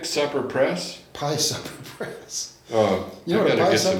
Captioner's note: laughs